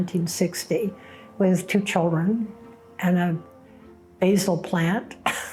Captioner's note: chuckles